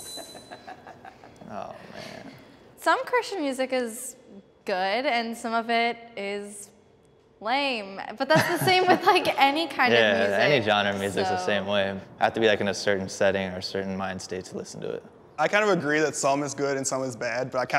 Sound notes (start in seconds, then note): 0.2 participant laughing